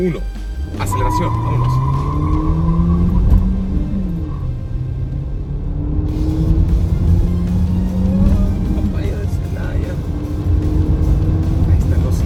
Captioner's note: engine revving; tyres squealing